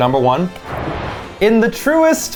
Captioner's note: animated explosion booming